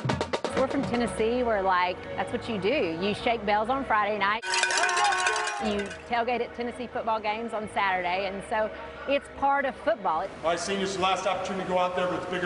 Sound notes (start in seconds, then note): 4.4 cowbell ringing